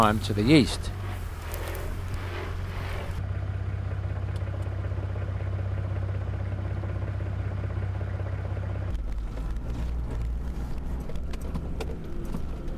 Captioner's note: vehicle sounds